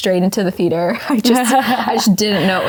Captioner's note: both laughing